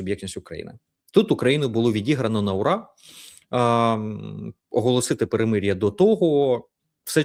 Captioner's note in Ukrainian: сопіння